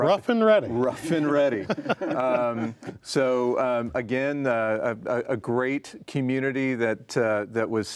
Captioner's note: laughs